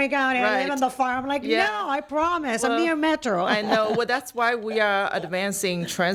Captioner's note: laughter